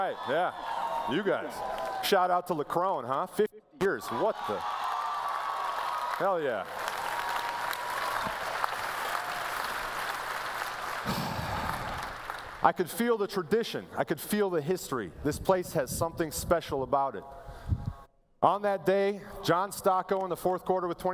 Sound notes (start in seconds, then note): 4.2 cheering; 7.4 applause